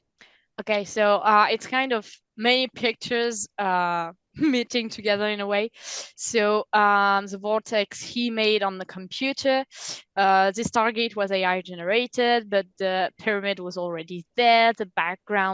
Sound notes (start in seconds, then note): 0.6 translating from French